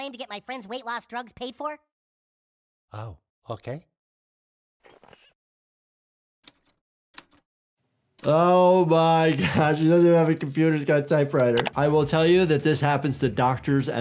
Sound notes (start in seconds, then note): 5.0 chair squeaks; 6.5 keys clacking